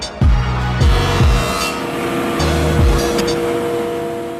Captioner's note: whirring